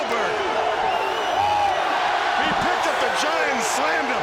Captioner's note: crowd cheering